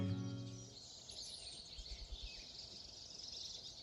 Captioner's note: birds chirping